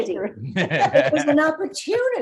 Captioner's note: laughing